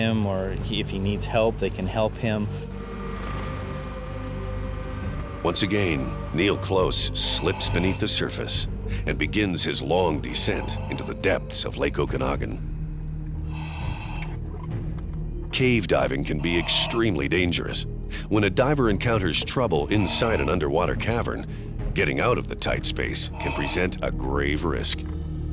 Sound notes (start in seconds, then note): 12.0 heavy breathing